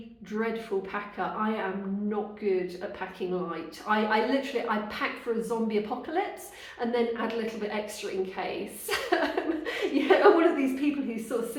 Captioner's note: laughing